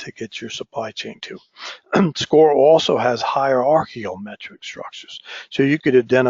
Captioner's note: cough